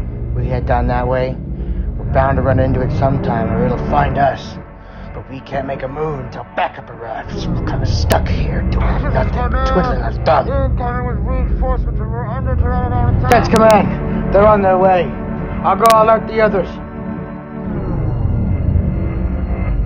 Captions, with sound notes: We head down that way, we're bound to run into it sometime, or it'll find us. But we can't make a move until backup arrives. We're kinda stuck here doing nothing twiddling our thumbs. (radio talk) This is command. Incoming with reinforcements but we are under Pteranodon attack. That's command, they're on their way. I'll go alert the others. (Ominous music)